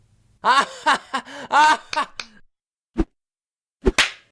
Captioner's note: clapping